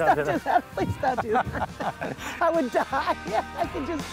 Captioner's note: laughter